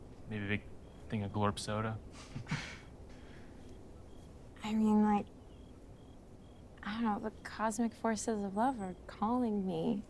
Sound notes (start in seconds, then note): 2.1 both chuckle